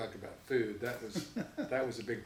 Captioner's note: laughs